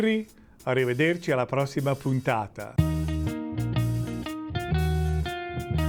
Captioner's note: speaking in italian